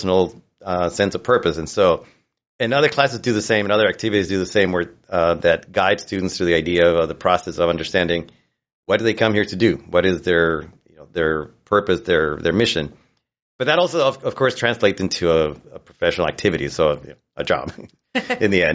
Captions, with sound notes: sense of purpose. And so, and other classes do the same, and other activities do the same, where that guide students through the idea of the process of understanding, what do they come here to do? What is their purpose, their mission? But that also, of course, translates into a professional activity, so a job -[chuckles]- -[laughs] ... in the end.